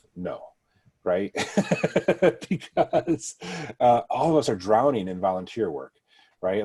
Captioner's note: laughs